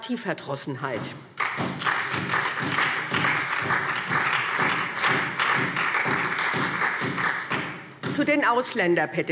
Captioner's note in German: Beifall